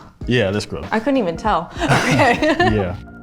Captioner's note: laughs